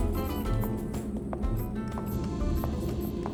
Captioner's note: electronic sounds from spaceship